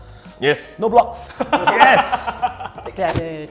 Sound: laughs

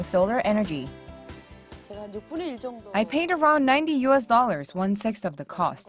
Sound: Korean

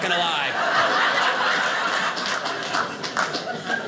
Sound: audience laughing

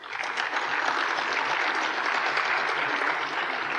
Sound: applause

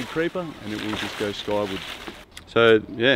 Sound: leaves rattle

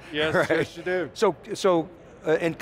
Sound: laughing

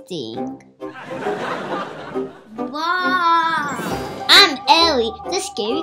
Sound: audience laughing

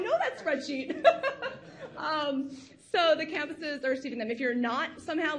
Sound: laughs

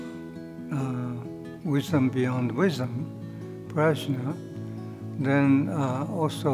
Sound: speaking in foreign language

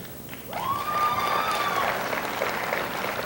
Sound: applause

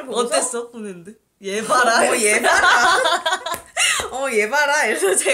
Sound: laugh

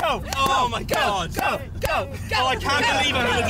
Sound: chanting Go! Go! Go!

